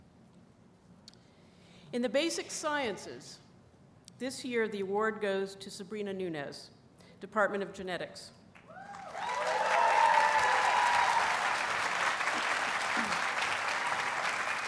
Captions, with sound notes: In the basic sciences this year, the award goes to Sabrina Nunez, Department of Genetics. [Audience applauds and cheers]